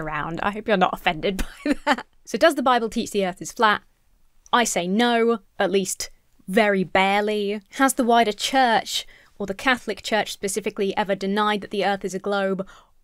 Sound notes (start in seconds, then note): 1.4 laughs